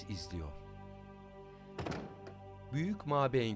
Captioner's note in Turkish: Kapı kapanma sesi